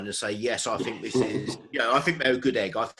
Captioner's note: laughs